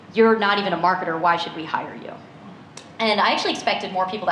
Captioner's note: none